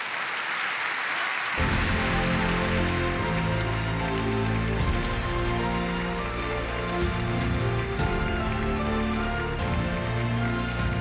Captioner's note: applause